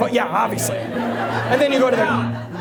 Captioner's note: audience laughs